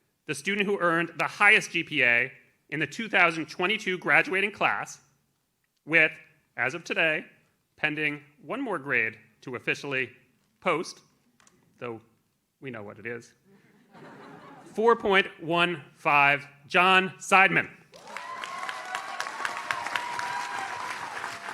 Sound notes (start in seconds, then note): 13.6 audience laughs; 17.9 audience cheers